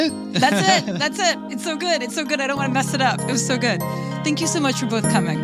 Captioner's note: laughs